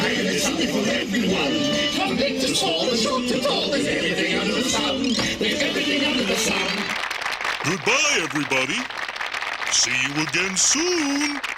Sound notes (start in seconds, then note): 6.4 audience applauding